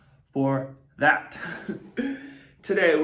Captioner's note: giggles